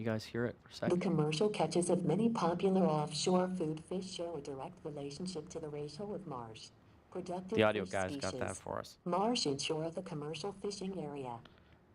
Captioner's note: computer voice